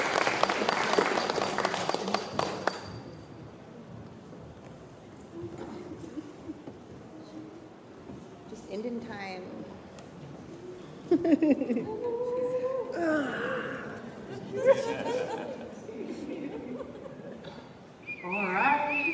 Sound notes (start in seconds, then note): 0.7 chatter; 11.1 laughs; 12.9 groans; 14.2 laughter; 18.0 whistling